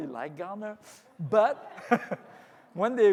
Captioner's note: audience laughs